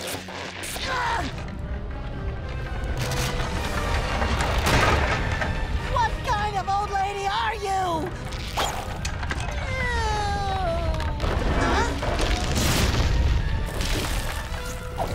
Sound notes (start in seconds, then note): 0.1 grunting; 4.1 thudding